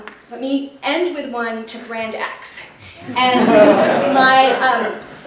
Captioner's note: laughter